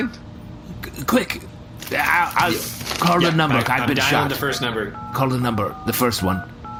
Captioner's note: dialing